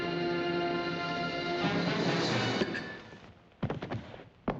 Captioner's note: clank